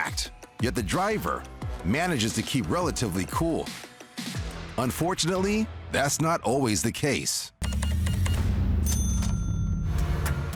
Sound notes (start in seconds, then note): 7.6 beeping; 8.7 cash register dings